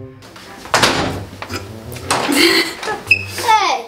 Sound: laughing

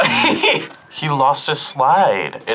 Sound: laughs; buzzer rings

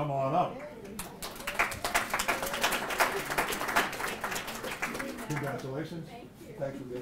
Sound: applause

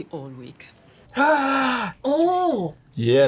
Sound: gasps

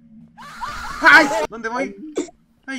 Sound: collective screaming

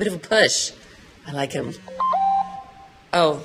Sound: phone beeps

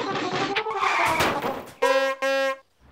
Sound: horn honking

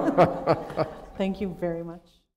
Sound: laughter

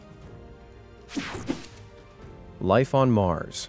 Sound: air whooshing

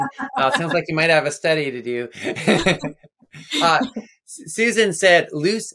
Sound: both laughing

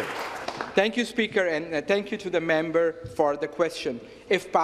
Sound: some Applause

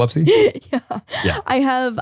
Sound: laughs

